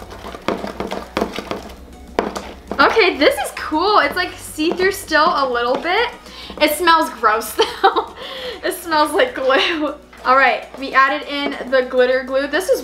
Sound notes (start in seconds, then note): 7.6 laughs